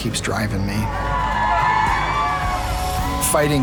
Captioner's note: cheering